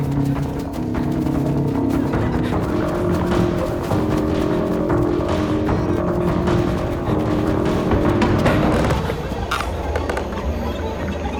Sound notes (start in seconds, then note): 8.6 wood creaking